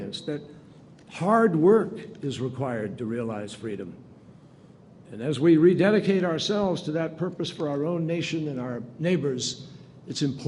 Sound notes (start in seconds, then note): none